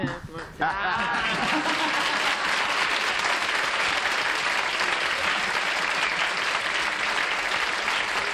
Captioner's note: applause